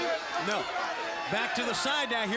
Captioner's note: crowd cheering